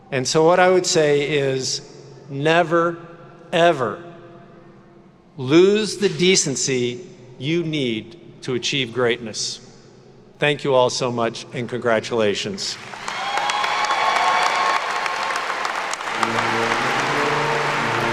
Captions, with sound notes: And so what I would say is never ever lose the decency you need to achieve greatness. Thank you all so much and congratulations. (attendees cheering and clapping)